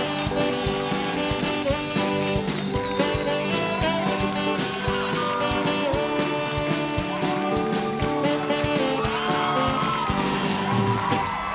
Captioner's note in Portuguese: aplausos